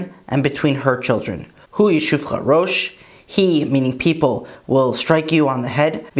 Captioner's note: Hebrew